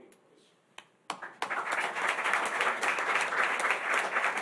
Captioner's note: applause